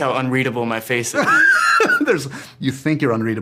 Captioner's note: laughs